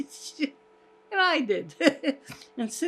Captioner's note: laughing